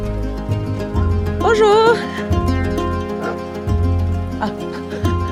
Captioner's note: speaks French